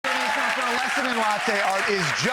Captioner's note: audience applauds